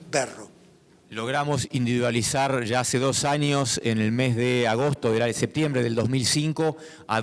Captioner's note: speaking in foreign language